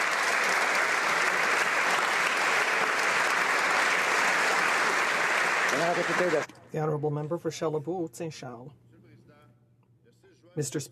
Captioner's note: applause